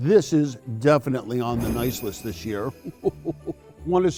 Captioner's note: bells ringing; chuckles